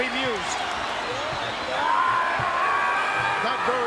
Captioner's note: King Kong Bundy shouting